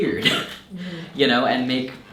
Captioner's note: chuckles